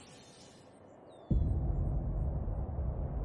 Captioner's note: cinematic hit